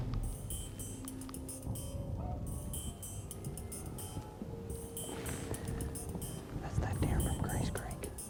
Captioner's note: whispering